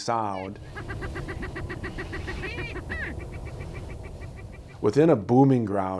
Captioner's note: prairie chicken cackling